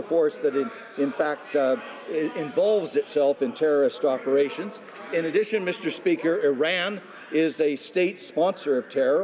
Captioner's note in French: voix de l'interprte